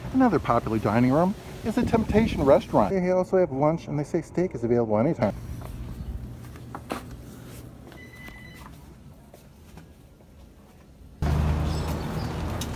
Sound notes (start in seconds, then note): 8.0 door chimes